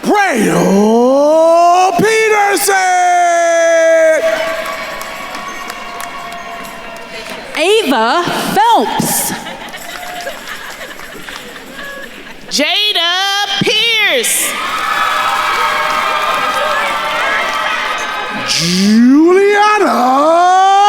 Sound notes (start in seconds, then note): 0.0 attendees cheering and applauding; 4.4 attendees cheering and applauding; 9.9 attendees cheering; 9.9 attendees laughing; 14.0 attendees cheering and applauding